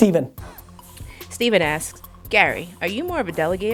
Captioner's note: voiceover